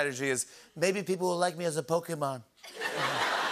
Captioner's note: As Trump; laughter